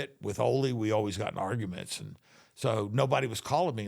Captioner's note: none